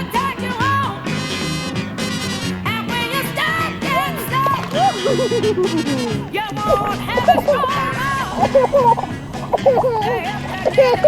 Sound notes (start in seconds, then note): 4.3 water splashing; 6.7 laughing